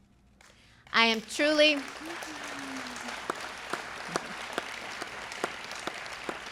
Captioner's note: applause